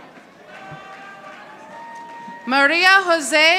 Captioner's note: audience applauding